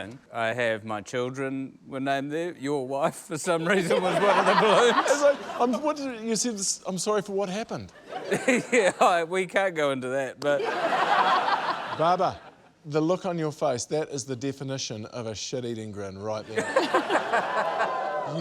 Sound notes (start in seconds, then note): 5.1 stammers; 11.3 laughter; 16.5 laughter, cheering